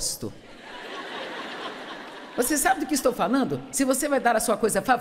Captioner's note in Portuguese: audiência ri